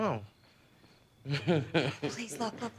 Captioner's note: johnny snickers